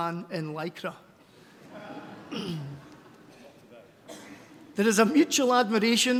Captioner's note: laughter